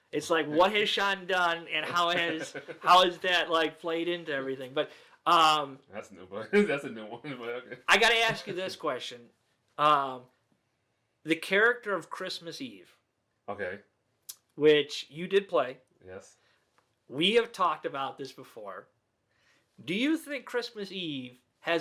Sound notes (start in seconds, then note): 6.4 laughs